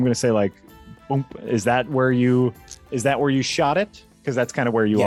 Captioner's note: boomp